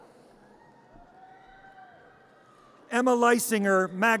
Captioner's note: audience cheers